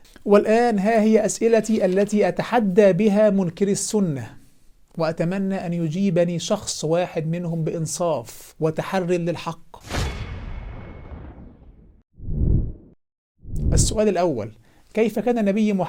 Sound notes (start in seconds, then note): 9.8 sound effect